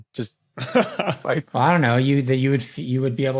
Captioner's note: chuckles